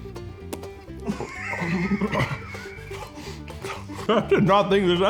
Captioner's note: crew members laughing